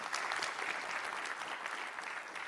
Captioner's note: applause